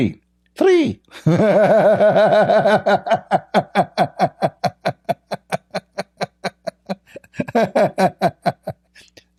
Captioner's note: Ketawa